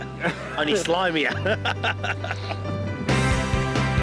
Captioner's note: laughing